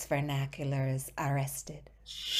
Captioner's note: sigh